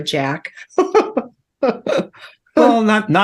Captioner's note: laughing